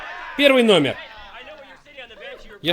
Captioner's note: all cheering